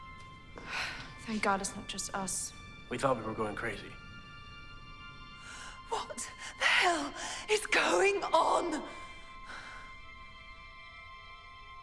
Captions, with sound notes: - (sighs) Thank God it's not just us. - We thought we were going crazy. - What the hell is going on?